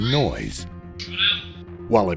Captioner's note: radio audio